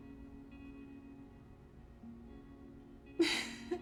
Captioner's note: laughs